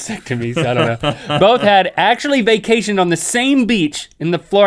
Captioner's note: laughs